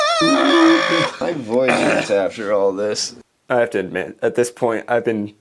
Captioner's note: screaming